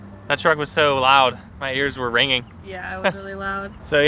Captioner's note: laughs